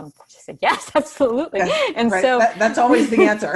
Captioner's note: laughs